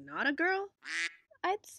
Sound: quack

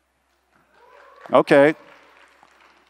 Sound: applause

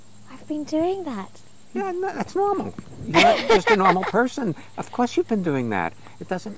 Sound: laughs

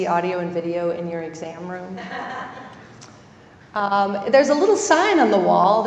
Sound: laugh

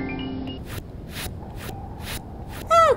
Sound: magical harp scales; footsteps

